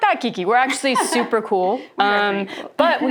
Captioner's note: laughs